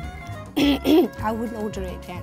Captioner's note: throat clearing